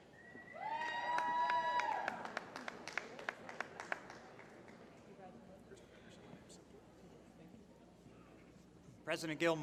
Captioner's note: applause